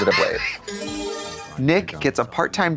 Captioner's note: bright chime